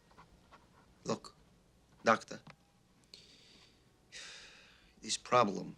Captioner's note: sighs